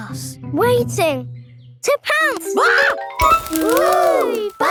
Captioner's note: screams